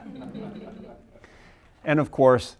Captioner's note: audience laughing